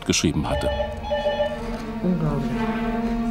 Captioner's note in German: Telefon klingelt; Bedrohliche Musik